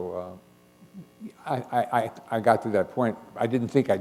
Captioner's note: chuckle